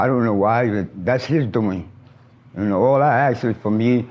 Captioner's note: traffic passes